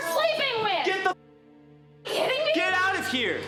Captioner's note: muted